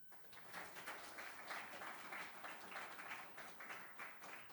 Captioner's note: audience applauding